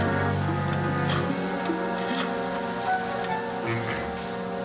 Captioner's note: dialing